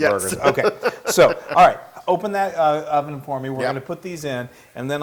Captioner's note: laugh